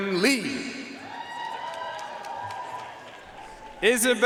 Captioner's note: audience cheering and applauding